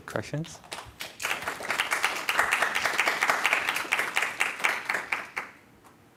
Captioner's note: applause